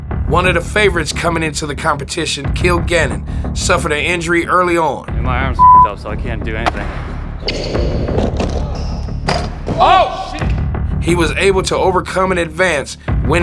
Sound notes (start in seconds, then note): 5.6 beep